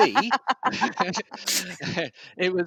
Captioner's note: laughter